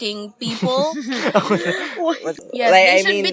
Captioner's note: laughs